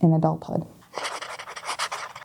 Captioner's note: pen writing on paper